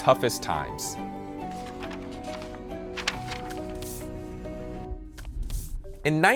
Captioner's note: lively music; paper rustling